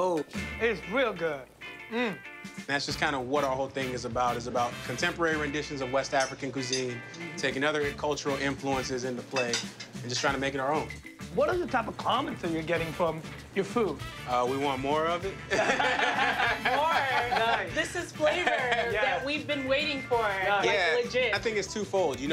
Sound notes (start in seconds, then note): 15.4 laughter